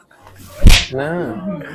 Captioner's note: thud